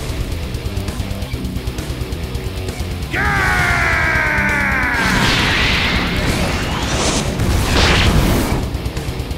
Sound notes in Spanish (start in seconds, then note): 3.0 Grita